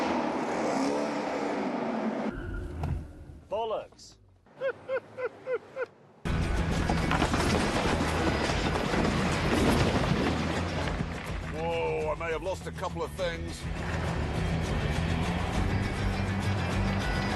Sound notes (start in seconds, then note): 3.0 engine stops; 4.5 laughter; 6.8 clattering